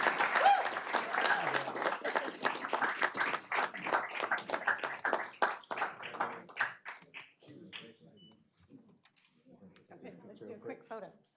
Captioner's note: applause